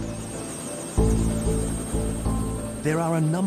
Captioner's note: helicopter blades whirring